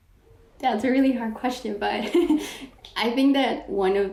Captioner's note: laughs